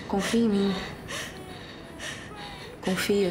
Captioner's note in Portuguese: valentina respirando tensa